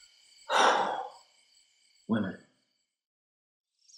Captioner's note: sighs